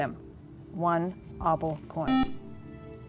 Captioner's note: buzzer